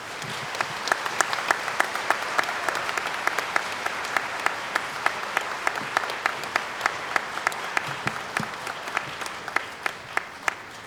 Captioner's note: applause